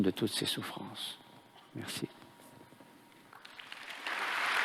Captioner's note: applause